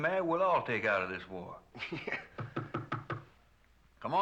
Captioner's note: laughs; Knocking